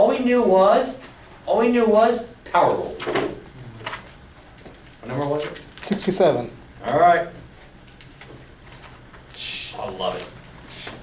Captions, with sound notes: All we knew was? All we knew was power rule. What number was it? - [Voiceover] 67. - Alright. Psh, I love it.